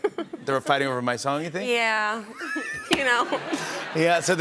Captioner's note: laughter